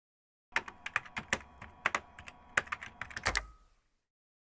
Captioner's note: keyboard typing sounds